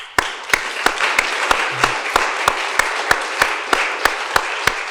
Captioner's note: attendees applauding